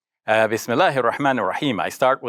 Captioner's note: speaking in foreign language